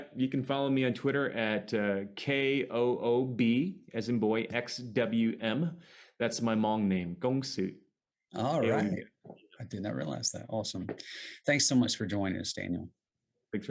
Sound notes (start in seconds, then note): 7.2 speaks foreign language